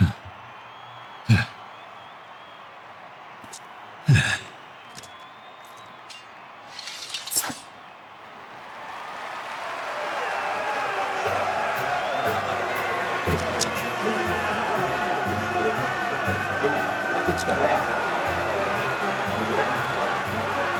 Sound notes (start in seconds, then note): 0.8 crowd cheering; 8.7 crowd cheering